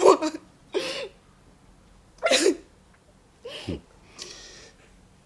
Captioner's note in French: pleurs